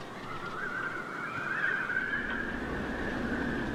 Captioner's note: wind whistling, clanging sounds